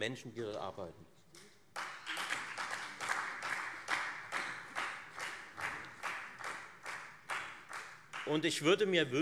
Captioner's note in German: Beifall Freie Demokraten